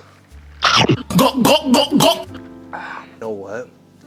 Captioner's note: gulping